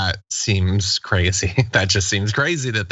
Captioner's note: laugh